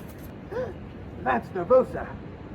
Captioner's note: Katey gasps